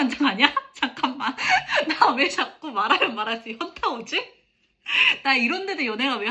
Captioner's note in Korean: 웃음